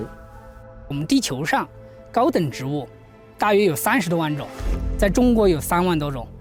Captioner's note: speaking in foreign language